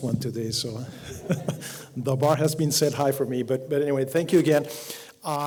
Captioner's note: laugh